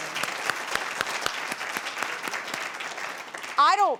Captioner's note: applause